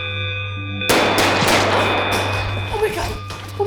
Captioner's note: gunshot, flesh tearing